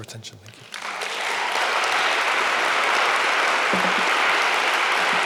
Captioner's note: audience applauding